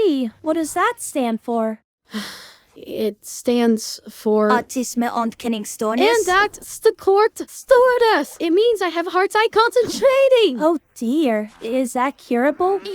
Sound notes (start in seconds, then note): 2.1 sigh; 4.5 in Dutch